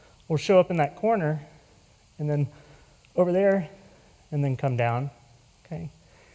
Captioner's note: none